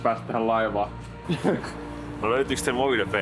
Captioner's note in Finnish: naurahdus